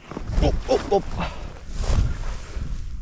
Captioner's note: grunting